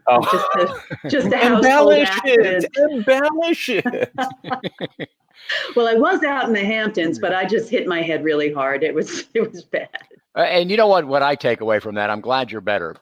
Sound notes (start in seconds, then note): 0.0 all laughing; 2.5 friendly banter; 3.3 all laughing